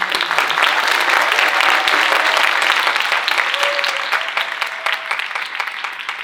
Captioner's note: audience cheering and applauding